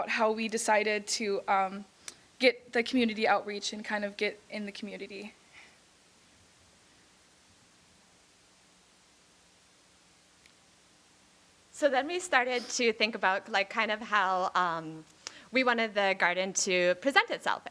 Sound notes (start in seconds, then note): none